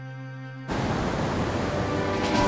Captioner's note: gentle music; waves crashing; water whooshing; energetic music